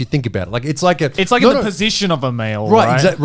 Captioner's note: all laughing